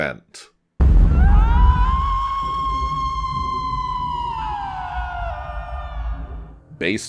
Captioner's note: woman screaming